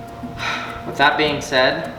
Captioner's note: sighs